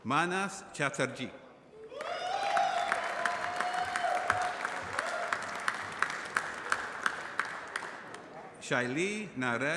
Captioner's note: applause